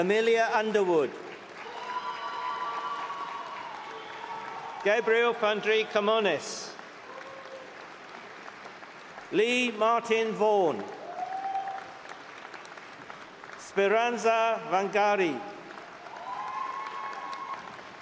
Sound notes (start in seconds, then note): 3.1 cheering; 12.0 applause